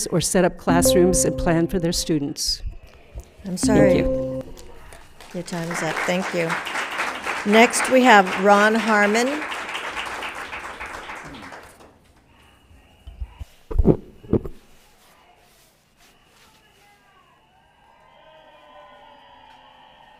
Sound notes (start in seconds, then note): 6.8 applauds